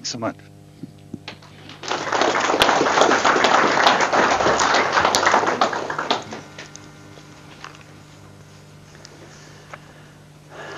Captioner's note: audience applause